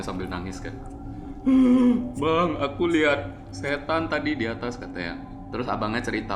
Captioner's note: crying